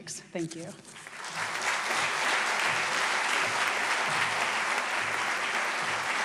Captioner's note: applause